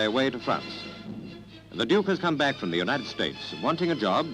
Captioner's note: voiceover